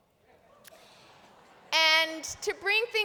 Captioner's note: laughter